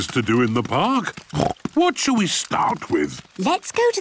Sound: snorts

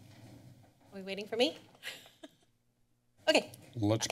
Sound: laughs

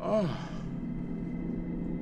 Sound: gasping; gentle ominous music

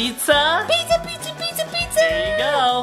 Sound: exclaiming

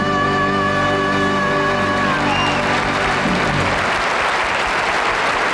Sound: audience applauding

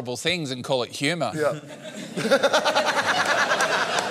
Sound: laughs

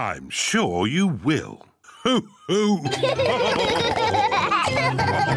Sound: all laugh

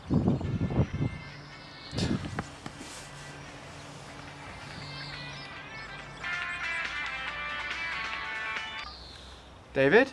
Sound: phone ringing

